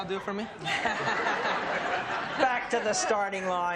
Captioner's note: laughter